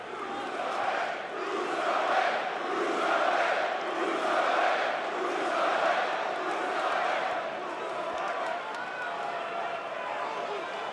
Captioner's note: crowd cheering